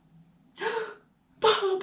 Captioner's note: gasping